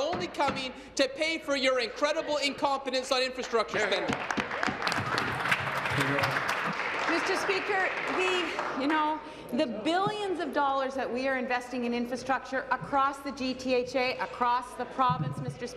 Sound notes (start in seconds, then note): 7.5 applause